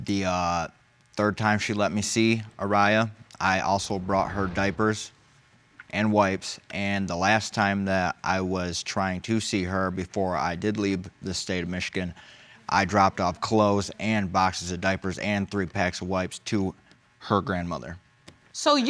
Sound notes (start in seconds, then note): none